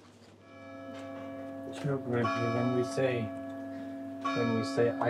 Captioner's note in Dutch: klokgelui